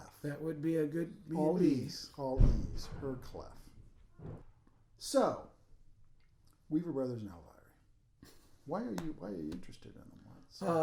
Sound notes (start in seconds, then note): 8.4 laughing